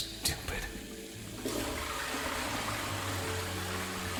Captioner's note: toilet flushes